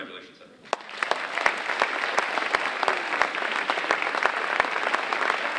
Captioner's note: audience applauding